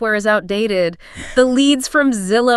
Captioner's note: chuckles